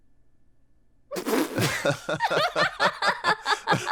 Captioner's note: laughing